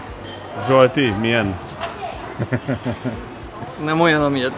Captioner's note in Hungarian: nevetés